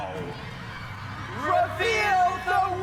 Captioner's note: audience cheering